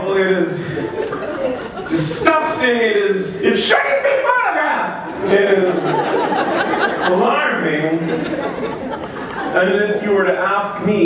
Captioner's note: laughter